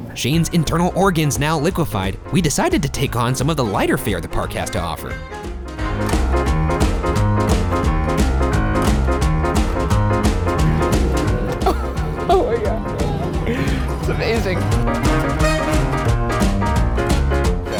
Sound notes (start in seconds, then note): 5.2 whimsical music; 10.6 laughing